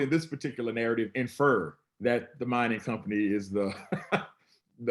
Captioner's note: laughs